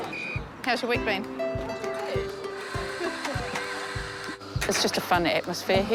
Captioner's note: chuckles